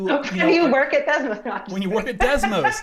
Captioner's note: laughs